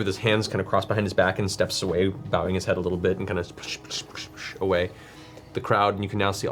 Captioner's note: splashing noise